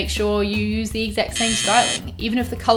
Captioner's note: buzzer buzzing